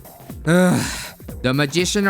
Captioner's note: sigh